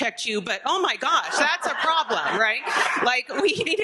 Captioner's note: audience laughing